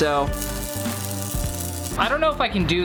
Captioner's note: solderer sizzling